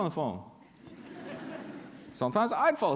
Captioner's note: laughter